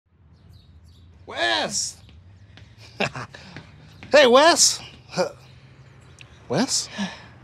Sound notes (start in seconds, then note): 0.0 birds chirping; 6.9 sighs